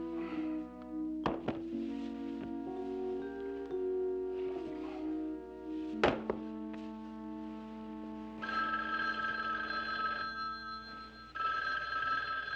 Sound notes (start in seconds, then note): 5.9 chuckles; 8.2 phone ringing